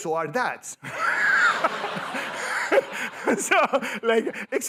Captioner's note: laughter